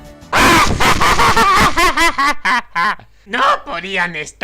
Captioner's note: demonic laughter